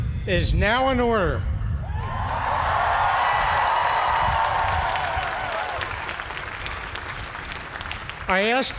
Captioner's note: cheers and applause